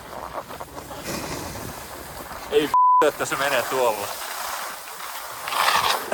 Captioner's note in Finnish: taustapuhetta